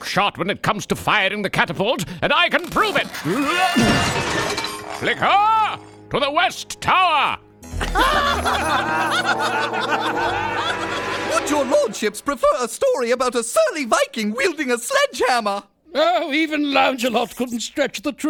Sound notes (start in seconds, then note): 3.1 crashing; 7.8 laughing